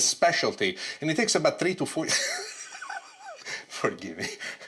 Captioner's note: laughs